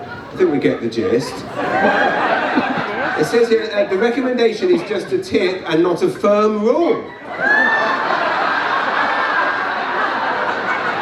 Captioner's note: laughter